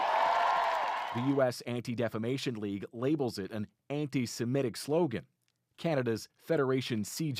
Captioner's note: cheers and Applause